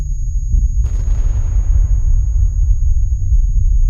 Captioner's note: explosions